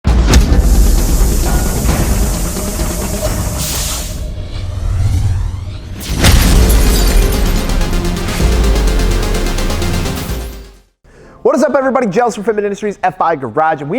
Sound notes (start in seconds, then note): 0.7 machine whirring; 6.0 glass shattering; 7.3 upbeat techno music